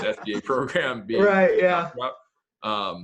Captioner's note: laughs